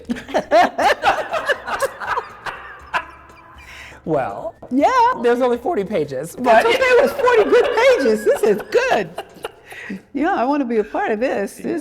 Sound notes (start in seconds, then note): 0.0 laughs; 0.0 Phylicia laughs; 6.5 laughing